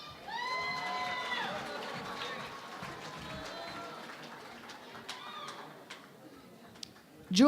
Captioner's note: cheering and Applause